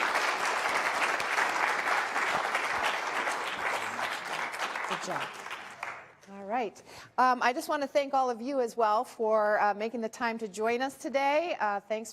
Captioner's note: applause